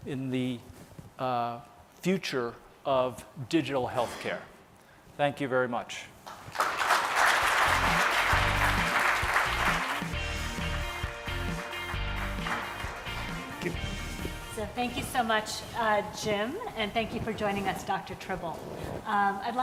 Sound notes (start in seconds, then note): 6.2 applause; 7.8 pop rock music